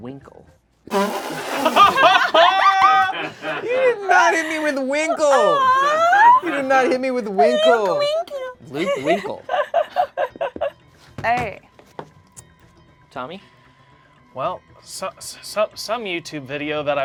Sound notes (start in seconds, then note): 0.6 group laughs; 8.5 laughs